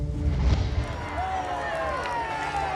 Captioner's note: people booing